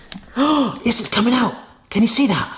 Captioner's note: gasps